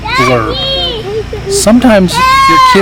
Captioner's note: kids yelling